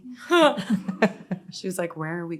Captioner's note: all laughing